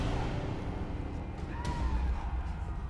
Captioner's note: screaming; gunshots